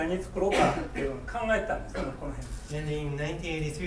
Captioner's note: speaking in foreign language; coughing